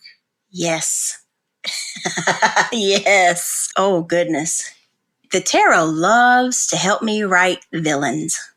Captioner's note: laughs